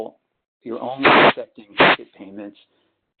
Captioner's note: sliding static